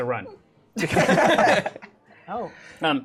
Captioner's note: laughter